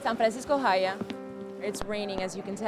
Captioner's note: speaks in Spanish